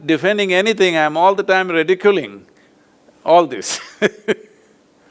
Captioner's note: laughs